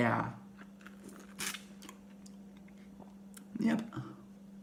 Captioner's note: slurp